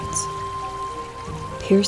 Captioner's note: sound of flowing river